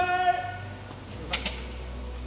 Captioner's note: click